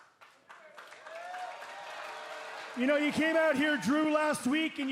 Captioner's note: cheers and applause